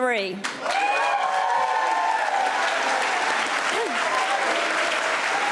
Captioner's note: audience cheering and applauding